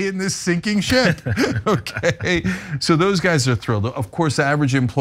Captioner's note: laugh